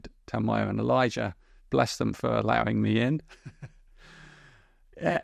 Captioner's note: chuckles